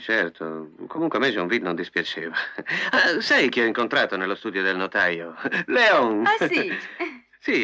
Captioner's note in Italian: risate